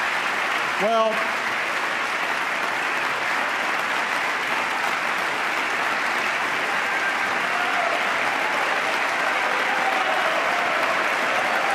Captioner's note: applause